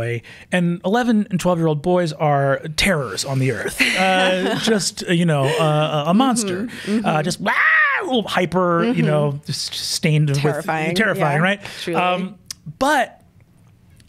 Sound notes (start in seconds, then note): 3.6 laughs; 7.3 imitates screaming